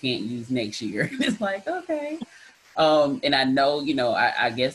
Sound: chuckles

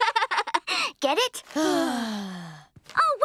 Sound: laughing; sighing

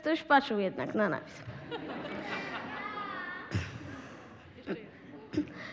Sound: laughter

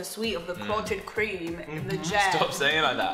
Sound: British accent

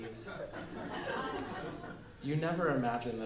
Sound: laughter

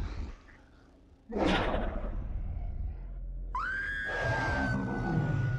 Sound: woman screams in terror

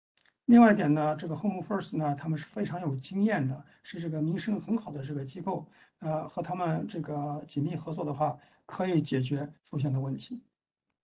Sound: speaks in Mandarin

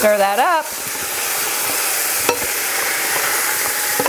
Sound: oil bubbling

